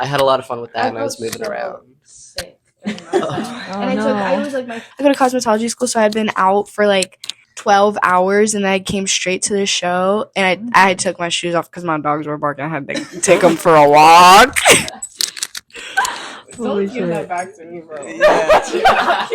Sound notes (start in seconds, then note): 15.8 all laughing; 18.1 laughing